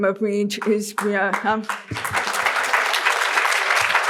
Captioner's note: applause